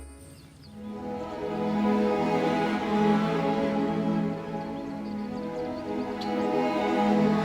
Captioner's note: dreamy music; birds chirping